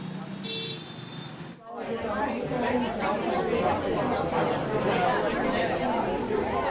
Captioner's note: crowd talking